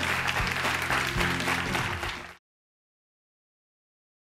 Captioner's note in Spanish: Aplausos